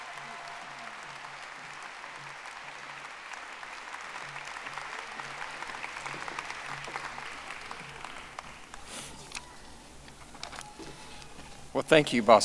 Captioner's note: audience applauding